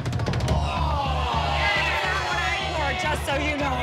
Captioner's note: intense music; audience gasps